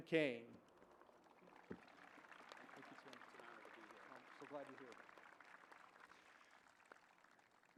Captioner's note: applause